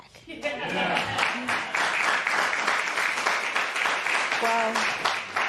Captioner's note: applause